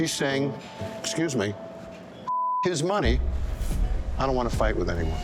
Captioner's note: beep